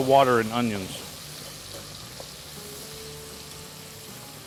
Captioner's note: onions sizzling